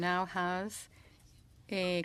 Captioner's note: speaking in French